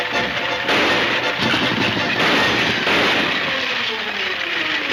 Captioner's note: gunshots banging